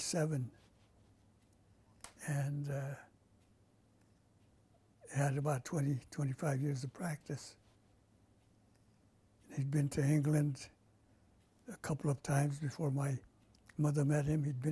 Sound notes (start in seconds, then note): 2.7 pauses for 3 seconds